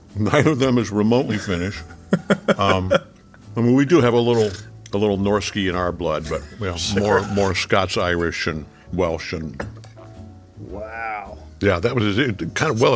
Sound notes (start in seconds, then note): 2.1 laughing